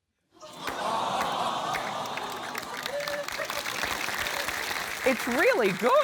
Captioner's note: laughter, applause